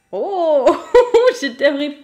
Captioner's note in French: rire